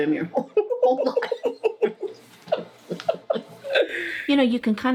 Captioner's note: laugh